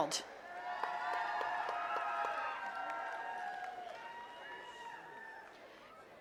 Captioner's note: attendees cheering and clapping